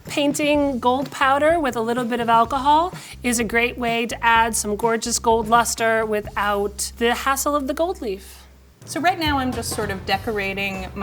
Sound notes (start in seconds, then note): none